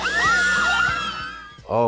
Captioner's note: girls screaming